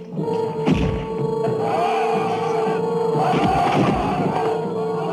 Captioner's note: muslim soldiers shouting in Arabic